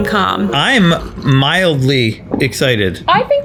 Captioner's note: drink slurps